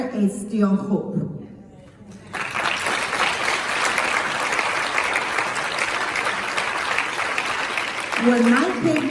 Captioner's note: claps